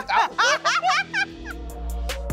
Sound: laughter

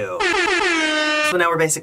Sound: airhorns

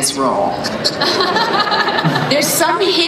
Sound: laughter

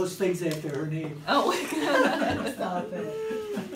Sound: laughs

